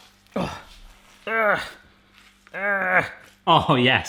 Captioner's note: grunting